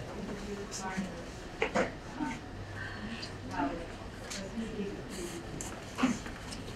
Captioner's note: speaking away from mic; speaking away from mic